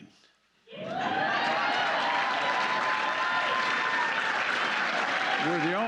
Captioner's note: applause